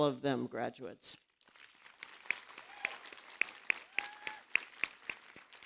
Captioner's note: applause